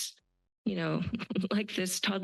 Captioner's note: laugh